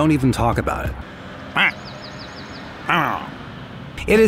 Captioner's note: grunting